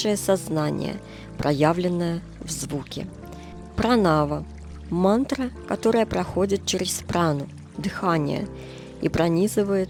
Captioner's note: breath